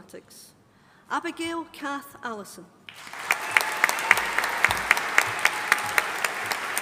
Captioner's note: audience applauding